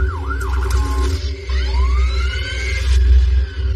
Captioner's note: sirens s wailing